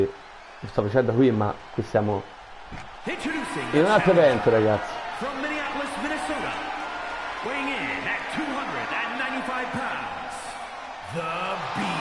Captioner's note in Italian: Applauso